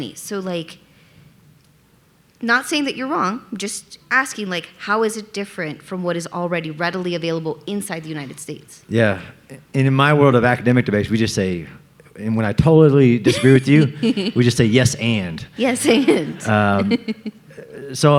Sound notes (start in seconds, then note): 13.2 laughing; 15.6 audience laughing; 15.6 laughing